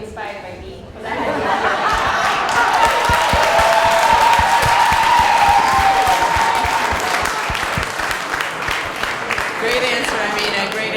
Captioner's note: cheers and Applause